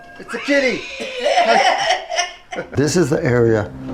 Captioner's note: laughing